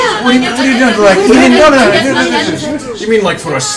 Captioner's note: sounds of protest